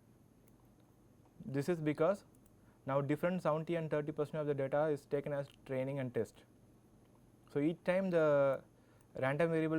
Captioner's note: click